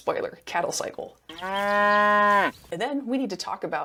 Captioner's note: cow moos